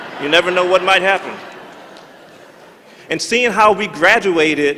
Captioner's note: laughter